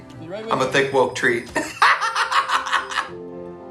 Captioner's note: laughs